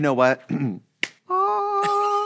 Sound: slaps hand

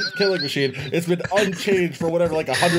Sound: laughter

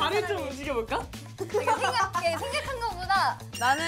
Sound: hehe

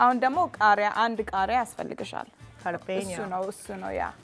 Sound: speaking Amharic

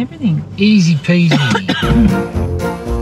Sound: cough

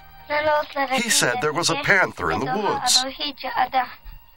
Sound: Spoken Cherokee

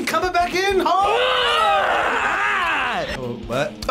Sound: both yell

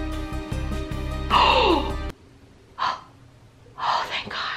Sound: gasps

